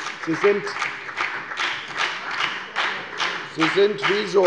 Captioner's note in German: Beifall bei der FDP